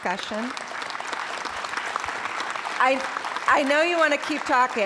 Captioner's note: applause